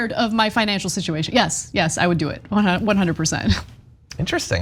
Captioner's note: laugh